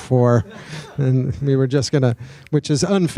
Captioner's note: audience laughing